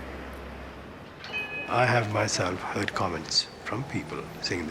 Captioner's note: bell chimes